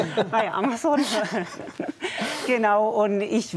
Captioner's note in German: Lachen